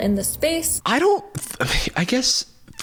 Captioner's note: sighs